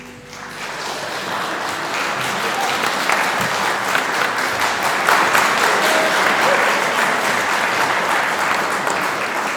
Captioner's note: applause